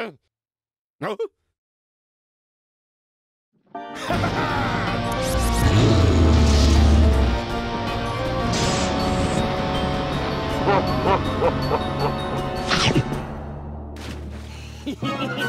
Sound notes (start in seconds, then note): 4.0 laughing; 5.2 growls; 10.6 evil laughter; 14.8 giggles